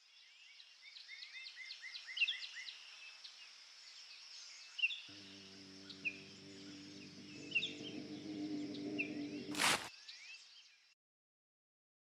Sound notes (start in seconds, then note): 0.0 woodlad sounds, a calm and peaceful day; 7.8 a low humming sound; 9.5 the sound of something landing in the grass